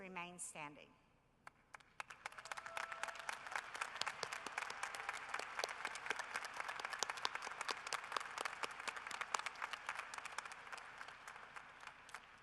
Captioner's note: cheering and applause